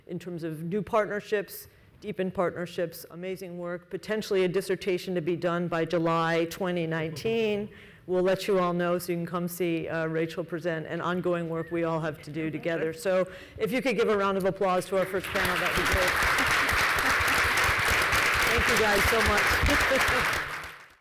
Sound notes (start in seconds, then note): 15.0 audience applauding